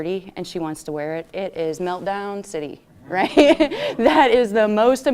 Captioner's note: laughs